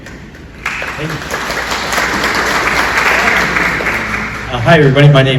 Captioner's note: applause